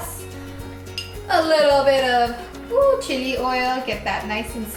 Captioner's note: whooping